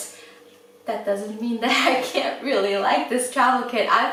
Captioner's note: laughs